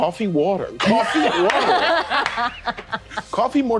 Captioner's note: all laughing